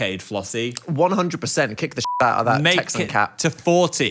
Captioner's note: beeps